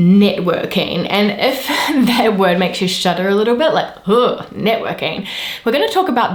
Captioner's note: ugh